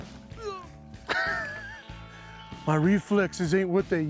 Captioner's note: grunts and laughs